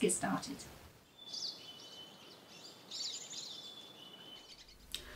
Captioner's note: birds tweeting